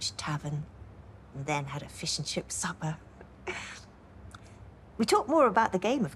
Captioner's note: she chuckles, softly